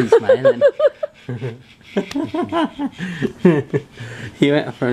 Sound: laughs

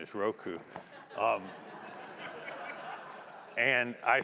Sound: audience laughing

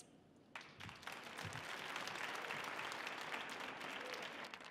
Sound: audience applauding

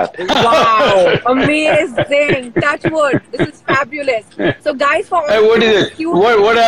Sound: Sadhguru laughs

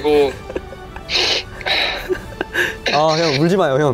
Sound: sniff

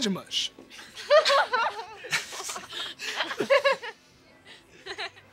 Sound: laughing

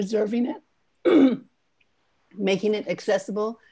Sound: clears throat

